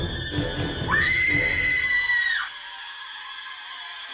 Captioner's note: screaming